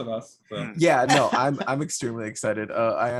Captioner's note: laughing